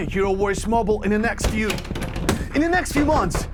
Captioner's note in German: Türklopfen